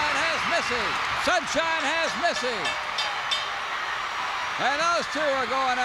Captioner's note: bell rings